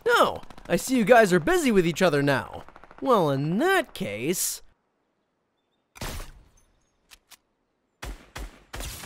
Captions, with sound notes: Oh, I see you guys are busy with each other now. Well, in that case. (gunfire)